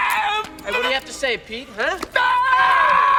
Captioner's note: stammers